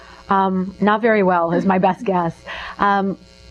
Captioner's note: laughs